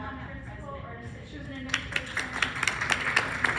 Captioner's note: clapping